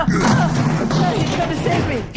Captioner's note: metal creaking, Parka and Anorak grunt in exertion